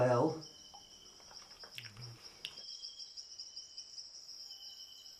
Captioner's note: crickets chirping